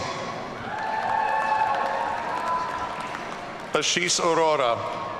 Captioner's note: audience cheering